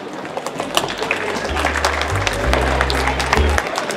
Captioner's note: audience applauding